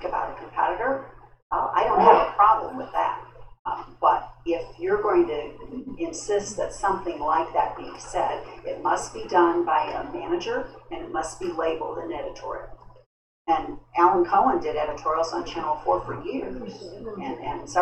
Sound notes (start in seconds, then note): none